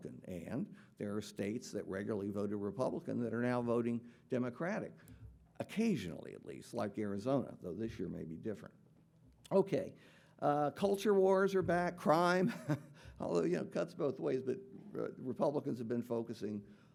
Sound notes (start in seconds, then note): 12.4 chuckles